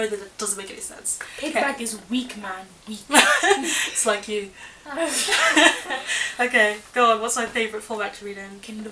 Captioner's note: laughter